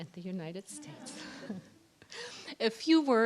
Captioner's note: laughter